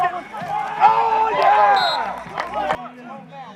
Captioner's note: whistle blows